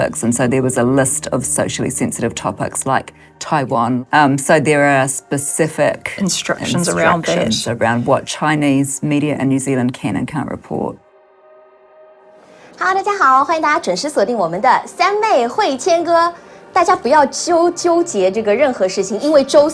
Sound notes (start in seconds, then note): 13.2 speaking in foreign language